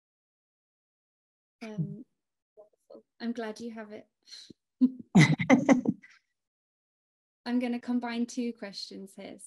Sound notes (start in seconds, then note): 5.1 both chuckling